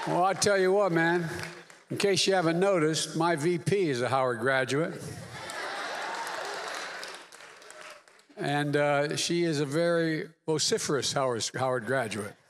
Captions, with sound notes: Well, I tell you what, man -- in case you haven't noticed, my VP is a Howard graduate. (Applause.) And she is a very vociferous Howard -- Howard graduate.